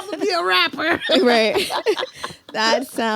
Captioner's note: laughs